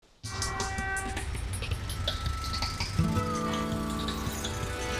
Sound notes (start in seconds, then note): 0.2 traffic horns blaring; 0.2 uptempo music